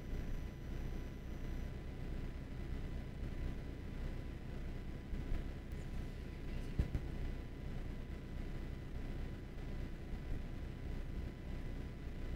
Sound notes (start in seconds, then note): none